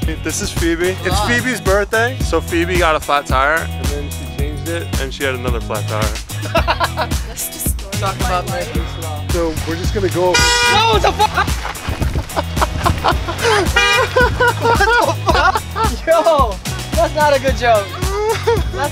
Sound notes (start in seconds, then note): 6.3 laughing; 10.3 loud car horn; 10.7 laughing